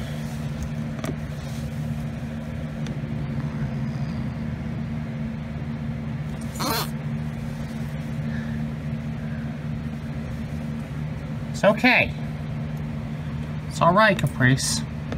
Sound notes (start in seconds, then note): 0.2 Caprice growls; 6.4 Caprice hisses; 6.5 Caprice continues to growl